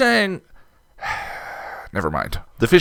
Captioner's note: sigh